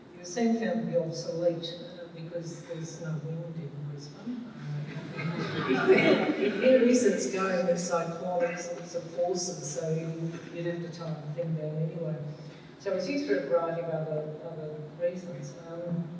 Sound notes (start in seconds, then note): 4.9 laughter